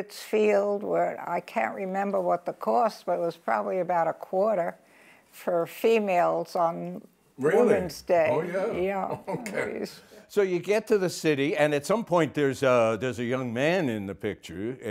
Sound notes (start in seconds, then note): 8.4 laughs